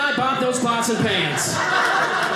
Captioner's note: audience laughing